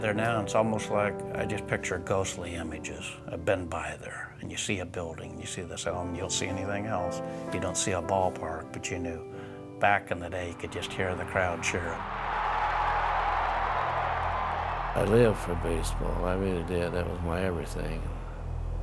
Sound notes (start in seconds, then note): 14.4 crowd cheering